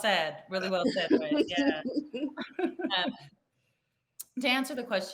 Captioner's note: participants laugh